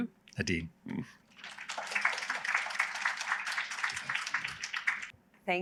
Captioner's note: applause